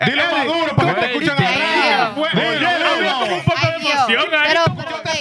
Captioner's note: speaking In Foreign Language